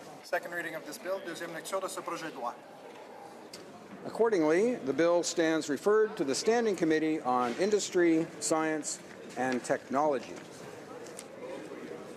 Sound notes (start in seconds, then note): 6.7 speaking in french